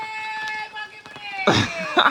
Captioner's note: yelling